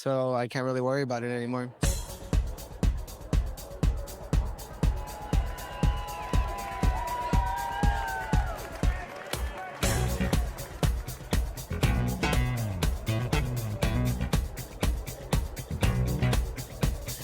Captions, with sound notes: so I can't really worry about it anymore. (dramatic music) (people shouting)